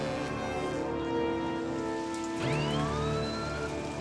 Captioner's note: alarm sounding